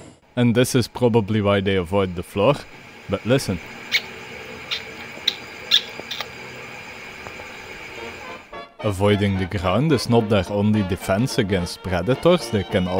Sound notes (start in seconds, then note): 3.7 gecko squeeking noises